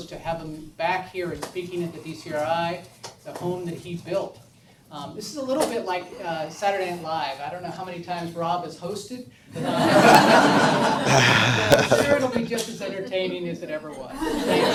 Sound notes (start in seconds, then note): 9.8 audience laughs